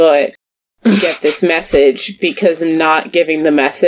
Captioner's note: laughs